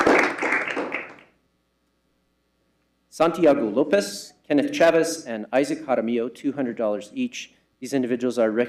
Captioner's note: applause